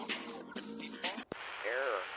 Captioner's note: Static